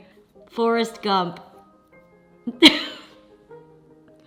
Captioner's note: laughs